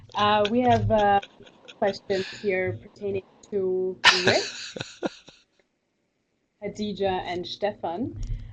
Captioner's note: laugh